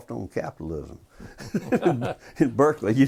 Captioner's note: laughter